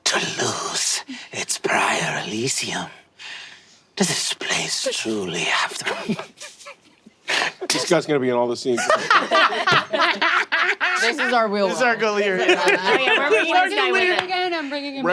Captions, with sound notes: - ...to lose its prior Elysium. Does this place truly have the- (players laughing softly) - This guy's gonna be in all the scenes, right? (players laughing) - This is our Wealwell. - This is our Gilear, yeah. - Yeah. - Yeah, we're bringing this guy with us. - What was his name again? I'm bringing him everywhere.